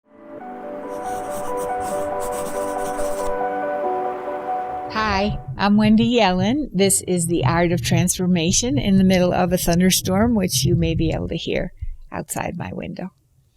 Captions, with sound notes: (soft music) (pencil scribbling) - Hi, I'm Wendy Yellen. This is the Art of Transformation, in the middle of a thunderstorm, which you may be able to hear outside my window.